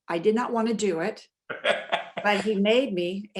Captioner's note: laughs